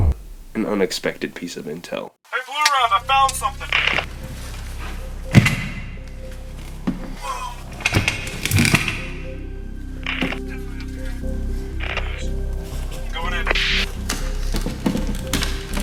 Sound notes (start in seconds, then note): 13.0 radio static